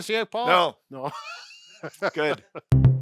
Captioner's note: laughing